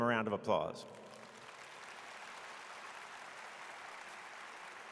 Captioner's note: audience claps